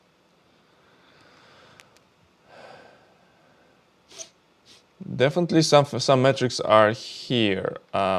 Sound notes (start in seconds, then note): 4.1 sniffs